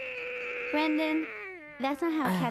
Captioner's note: yowls hoarsely